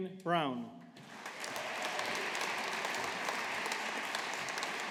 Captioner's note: audience applauding